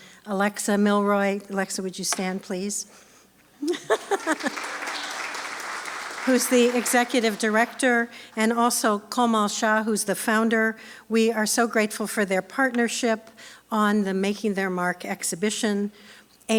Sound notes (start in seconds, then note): 3.6 laughs; 3.9 applause